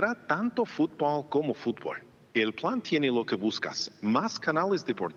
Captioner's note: speaking spanish